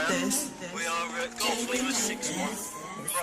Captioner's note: police radio chatter